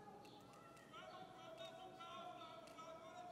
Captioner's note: protesters shouting